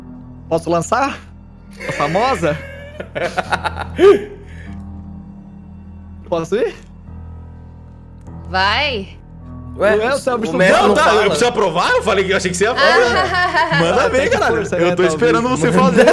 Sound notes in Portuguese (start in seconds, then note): 1.8 Risos